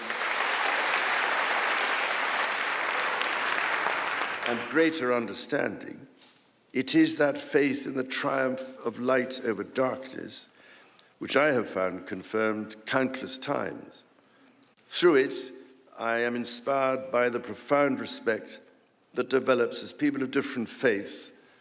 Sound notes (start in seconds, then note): 4.5 applause